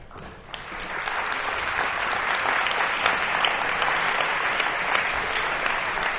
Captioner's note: applause